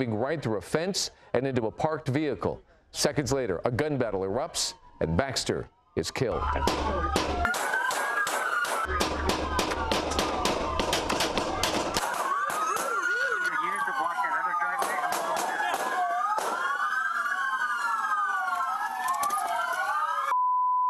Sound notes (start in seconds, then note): 5.8 sirens